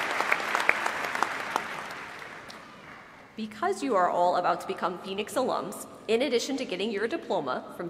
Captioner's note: applause